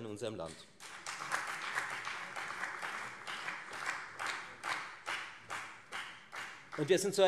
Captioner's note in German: Beifall